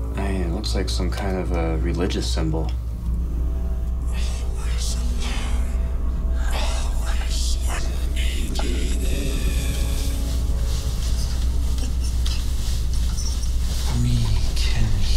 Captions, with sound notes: - It looks like some kind of a religious symbol. - [Demonic Voices] Always alone. Always unneeded. We can heal.